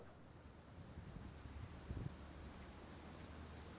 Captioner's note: leaves rustling